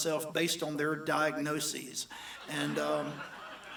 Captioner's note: audience laughs